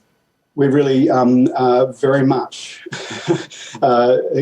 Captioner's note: laughs